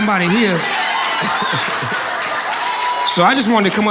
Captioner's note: audience laughing and cheering